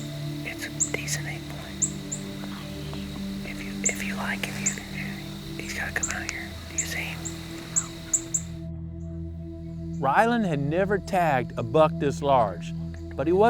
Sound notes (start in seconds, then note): 0.0 whispering; 7.8 whispering